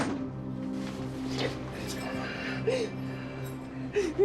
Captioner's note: sobs